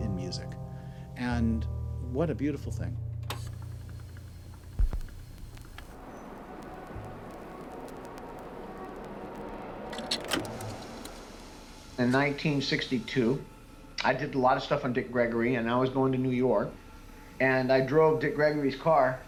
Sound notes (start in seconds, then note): 5.4 record whirs; 8.1 distant traffic